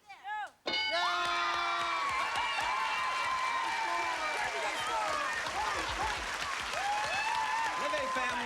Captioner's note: cheers and applause